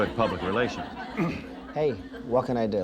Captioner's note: clears throat